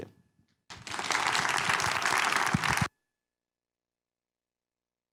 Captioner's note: audience applauding